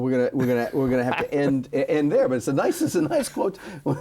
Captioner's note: laughs